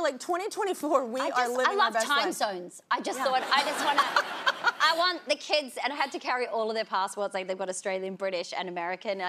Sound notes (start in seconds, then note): 3.2 audience laughing; 3.2 laughs